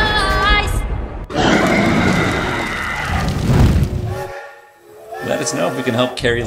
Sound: roar

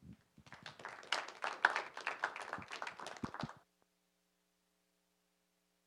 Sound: applause

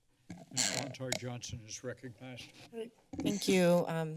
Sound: mic noise

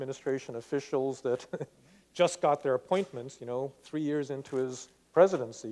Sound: laughs

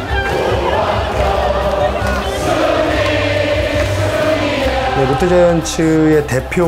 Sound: chanting in foreign language; speaking in foreign language

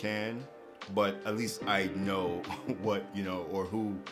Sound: chuckles

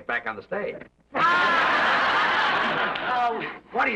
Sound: Lucy laughs

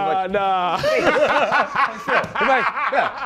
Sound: laughter

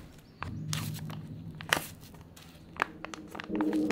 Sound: paper tearing

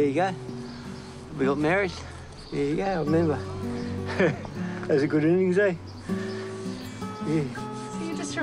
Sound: chuckles

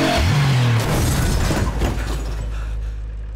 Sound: crashing

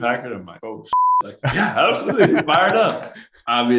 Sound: beep; laughing

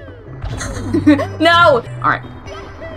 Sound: snicker

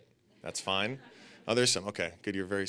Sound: audience laughing

